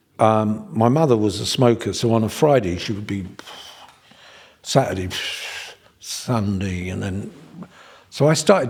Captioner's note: puffs